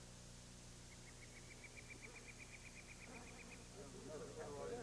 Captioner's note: bird chirping